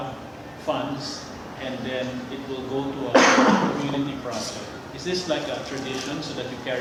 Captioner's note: cough